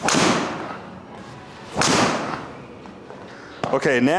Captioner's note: club swishing and clicking; impact of ball thudding